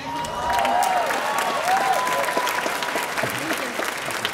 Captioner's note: audience applauding